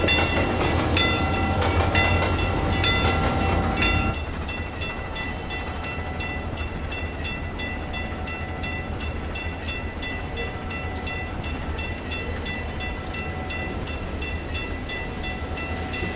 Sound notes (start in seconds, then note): 0.0 clickety-clack; 4.8 ringing stops; 9.5 another railroad crossing ringing in the distance